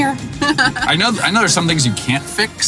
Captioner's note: laughs